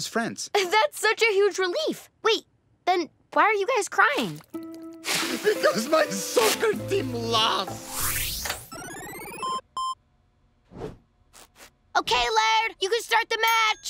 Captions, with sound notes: That's such a huge relief. Wait, then why are you guys crying? Because my soccer team lost! [beeping] Okay, Laird, you can start the match!